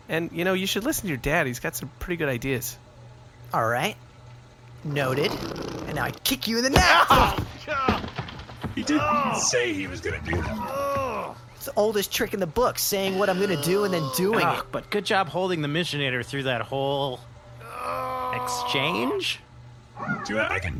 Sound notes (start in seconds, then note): 6.7 impact; 6.7 Pleck yells in pain; 10.4 Pleck groaning in pain; 14.7 Pleck continues to groan